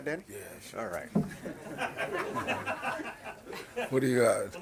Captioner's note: laughing